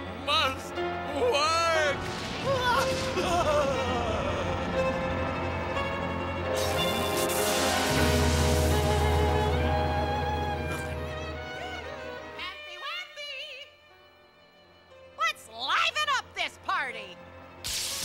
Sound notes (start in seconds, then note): 2.4 laughing maniacally